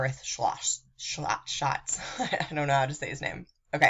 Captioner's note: laughing